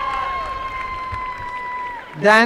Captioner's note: applause and cheering